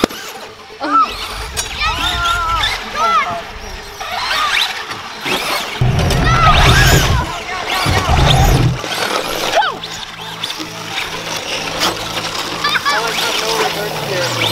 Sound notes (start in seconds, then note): 3.1 yells; 12.6 laughs